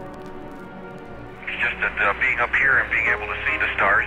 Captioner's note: radio transmission